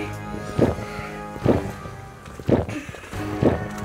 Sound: gulping

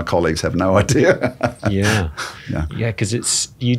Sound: laughing

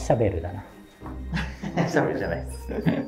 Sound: laughing

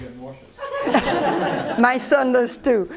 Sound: laughter

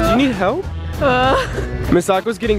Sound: laughing

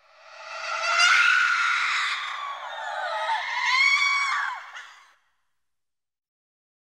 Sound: ghostly shrieks

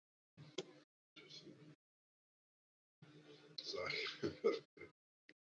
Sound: faintly speaking

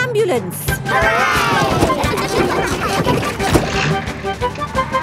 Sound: giggling

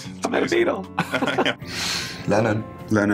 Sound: laugh

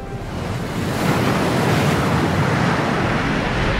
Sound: water splashing

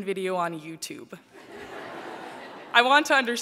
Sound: laughter

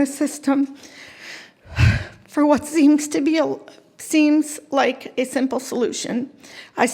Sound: choking up

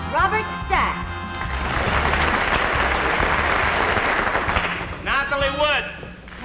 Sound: audience applauds

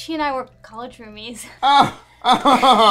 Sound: laughs

